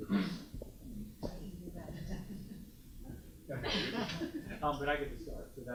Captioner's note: student speaks faintly